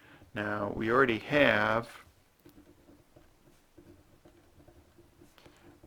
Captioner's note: writing